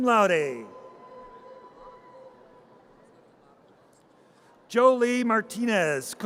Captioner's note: audience cheers